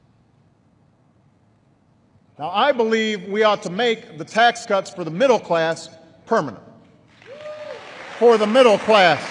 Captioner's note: applause